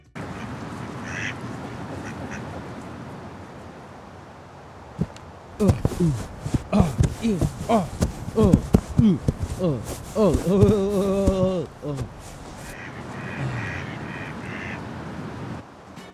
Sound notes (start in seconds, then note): 6.6 grunting sounds